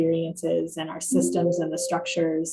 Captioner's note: computer chiming